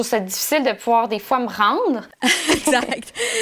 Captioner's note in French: rires